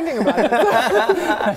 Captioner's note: supportive laughs